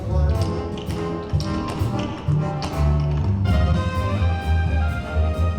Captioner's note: energetic orchestra music; tap shoes clicking